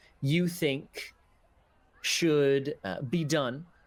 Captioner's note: none